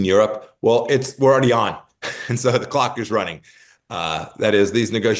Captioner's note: laugh